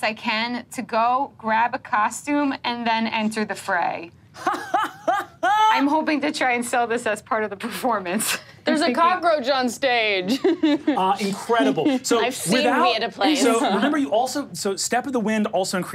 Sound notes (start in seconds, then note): 4.4 laughs